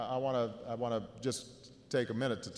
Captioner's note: stammering